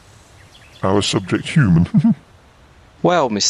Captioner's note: laughs